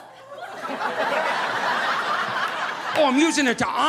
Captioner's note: audience laughing